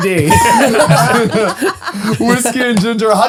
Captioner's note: all laughing